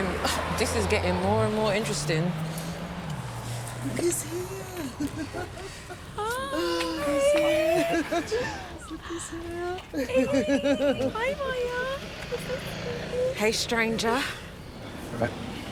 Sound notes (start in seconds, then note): 4.9 Evelyn chuckling; 9.6 Evelyn laughing